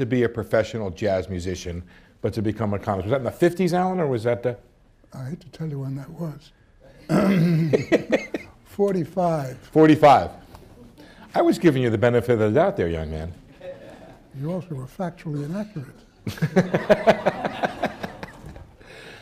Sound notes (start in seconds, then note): 7.0 laughs; 16.2 laughter